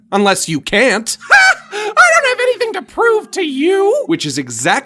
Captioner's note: laughs